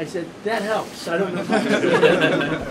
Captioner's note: laughter